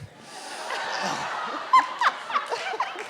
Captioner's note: laughter